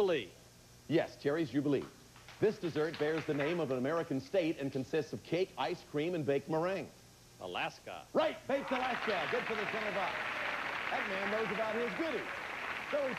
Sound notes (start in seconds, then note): 8.5 audience applauding